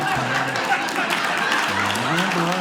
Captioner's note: audience laughing